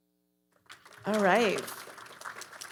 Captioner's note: audience applauding